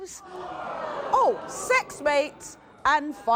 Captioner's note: audience groans